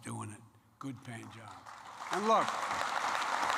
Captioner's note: applause